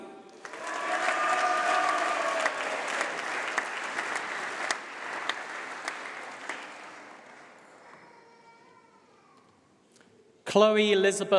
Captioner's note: applause